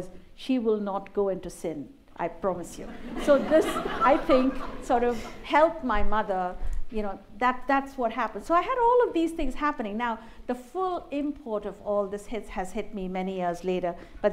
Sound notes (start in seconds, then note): 2.9 laughter